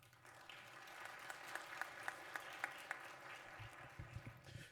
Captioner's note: applause